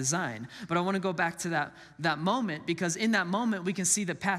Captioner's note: none